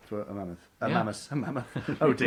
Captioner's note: laughs